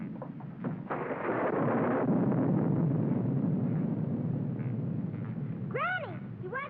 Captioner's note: thunder rumbles